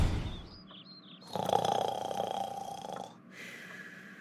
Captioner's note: heavy snoring abides